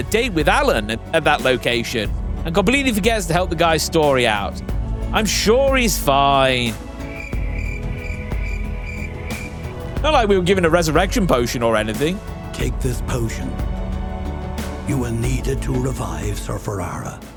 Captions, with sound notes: date with Alan at that location, and completely forgets to help the guy's story out. I'm sure he's fine. [Crickets] Not like we were given a resurrection potion or anything. Take this potion. You will need it to revive Sir Farara.